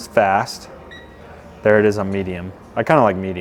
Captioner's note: remote beeps